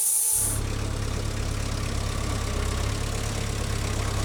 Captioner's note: engine revving